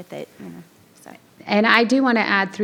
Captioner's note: faintly speaking